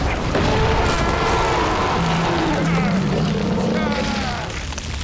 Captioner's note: ground bursting; Adrian screaming; shark roaring; Adrian screaming; teeth crunching